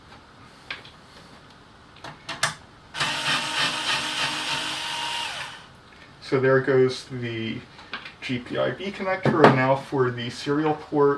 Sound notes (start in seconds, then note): 3.0 whirrr with off-axis wobble